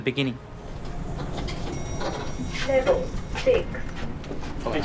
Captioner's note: elevator bell dings